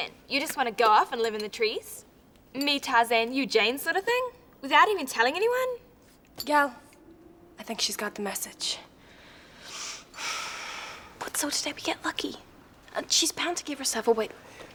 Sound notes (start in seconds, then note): 9.2 sighs